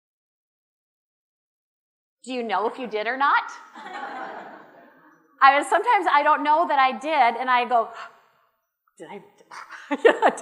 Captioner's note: smelling